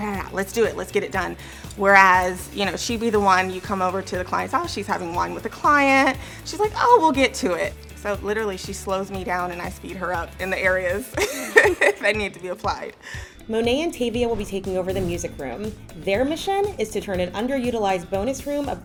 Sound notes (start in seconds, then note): 11.1 laughs